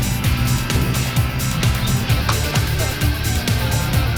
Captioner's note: murmuring